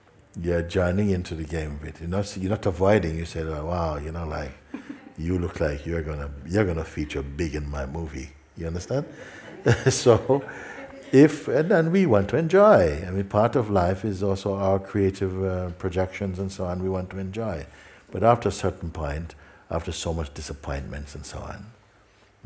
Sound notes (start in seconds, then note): 9.0 laughter